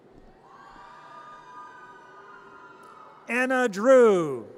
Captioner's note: audience cheers